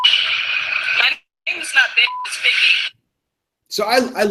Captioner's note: beeping